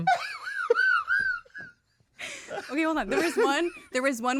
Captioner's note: laughs